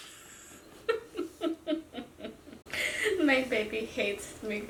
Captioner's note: laughs